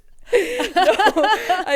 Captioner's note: both laughing